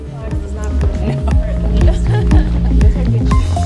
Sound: murmuring settling noise

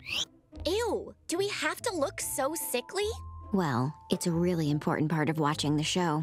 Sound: none

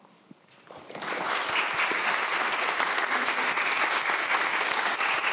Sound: audience applauding

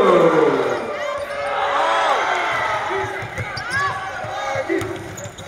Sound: crowd Cheers

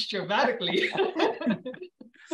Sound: laughter

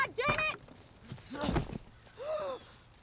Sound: J.D. grunts

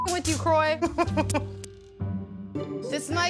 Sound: laughing

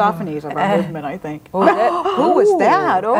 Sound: gasps

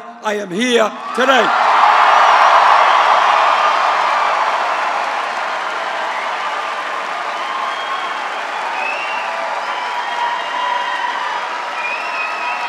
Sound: applause

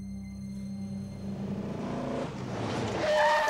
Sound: tires screeching

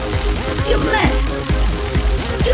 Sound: crackling electricity

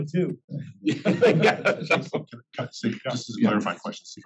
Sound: laugh

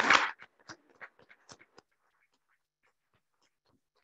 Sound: audience clapping

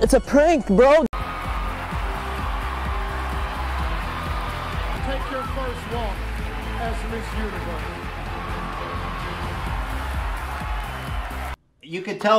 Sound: crowd Cheers

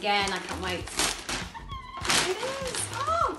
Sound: squeals

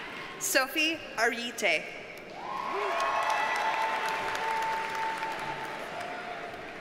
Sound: audience cheers and applauds

